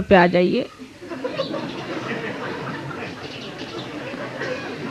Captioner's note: yogis laugh